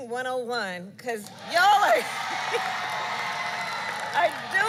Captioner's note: applause